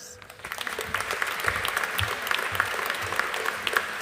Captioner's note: audience applauding